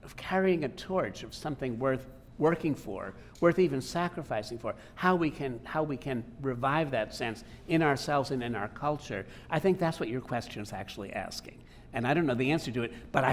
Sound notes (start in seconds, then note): none